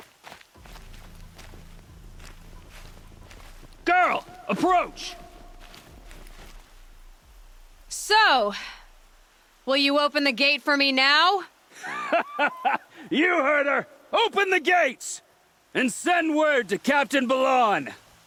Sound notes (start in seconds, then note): 11.7 laughs